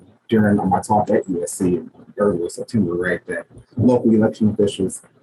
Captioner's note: speaking faintly